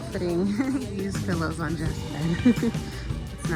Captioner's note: laughs